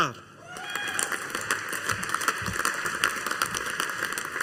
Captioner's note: audience applauding